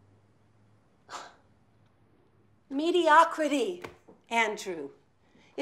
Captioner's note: scoffs